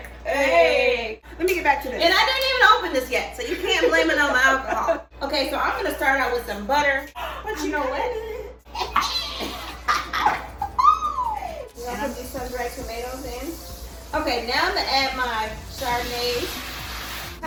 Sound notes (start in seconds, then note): 8.6 laughs